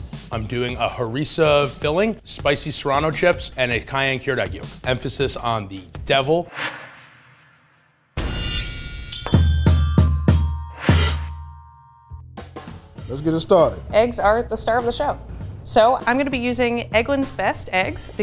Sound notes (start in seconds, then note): 6.4 text whooshes; 8.2 metal rings; 9.2 upbeat music